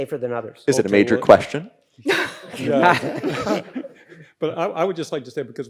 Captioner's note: all laugh